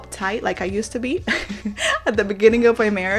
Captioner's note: giggles